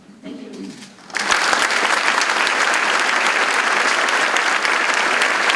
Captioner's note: audience clapping